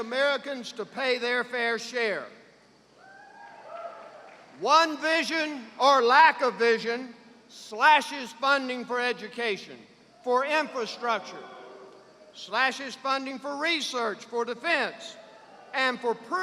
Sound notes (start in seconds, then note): 3.0 cheers; 11.2 boos